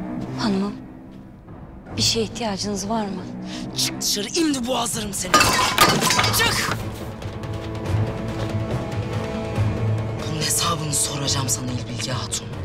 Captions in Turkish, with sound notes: Hanımım, bir şeye ihtiyacınız var mı? Çık dışarı, imdi boğazlarım seni. (Vurma sesi) Çık! Bunun hesabını soracağım sana İlbilge Hatun.